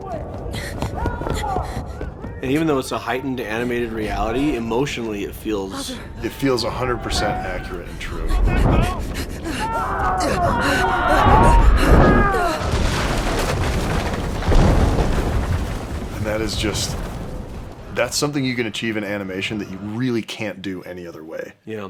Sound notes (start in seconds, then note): 9.3 distorted shouts; 11.0 Mahiko's fast breathing; 13.3 roar of fire and breaking wood